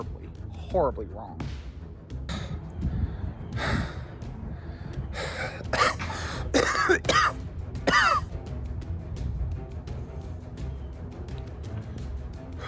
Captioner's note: panting and breathing harder than usual